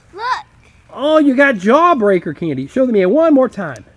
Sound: voiceover

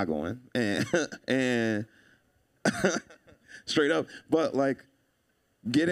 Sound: laughing

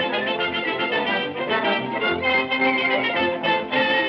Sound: none

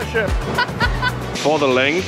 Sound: laughs

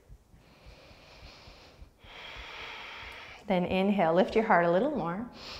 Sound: deep breath

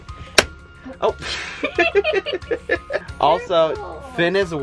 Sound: laughing

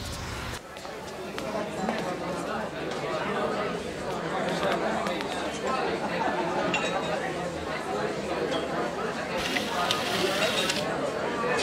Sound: crowd noise

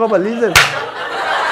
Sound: slaps hands

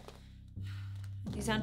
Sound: sigh

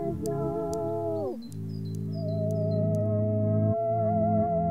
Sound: birds chirping

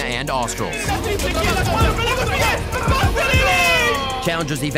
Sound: casters cheering

